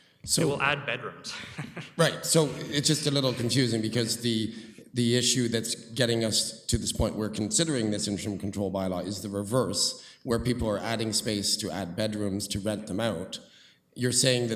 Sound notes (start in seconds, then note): 1.9 laughing